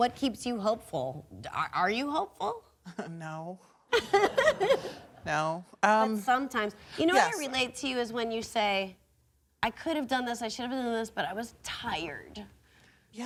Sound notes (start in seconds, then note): 3.9 laughs